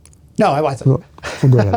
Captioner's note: laughing